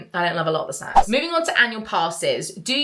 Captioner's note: screen fwipping